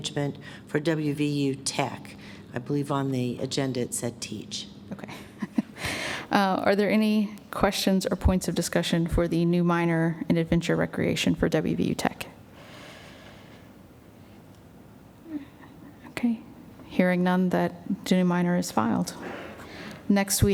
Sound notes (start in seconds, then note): 5.6 laughs; 12.4 silence